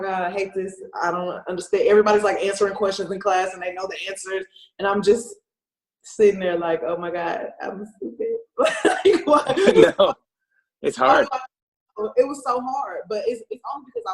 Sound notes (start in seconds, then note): 8.6 laughs